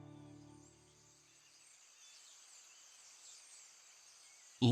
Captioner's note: birds chirping